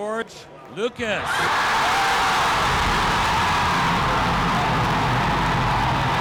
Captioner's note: cheering